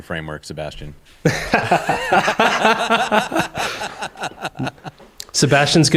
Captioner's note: laughter